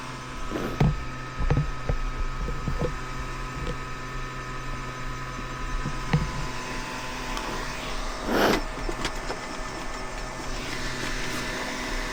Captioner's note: engine roaring